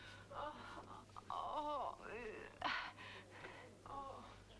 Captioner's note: Hundra groans